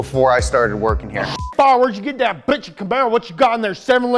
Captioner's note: beep